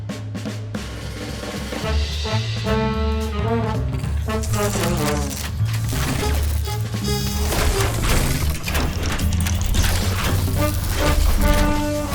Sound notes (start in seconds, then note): 4.0 machines whirs; 4.2 electricity crackles